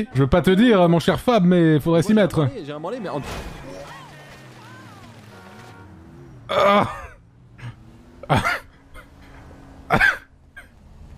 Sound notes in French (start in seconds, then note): 6.4 Dona gémit; 8.2 il rit; 9.9 il rit